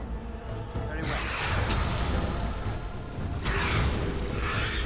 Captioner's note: intense orchestral music; monster grunting